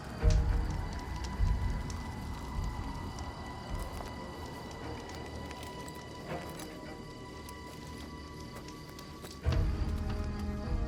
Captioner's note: fire crackling